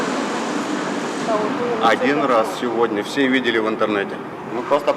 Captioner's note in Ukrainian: вдарила блискавка